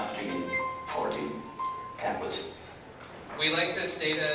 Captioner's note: computer makes a tone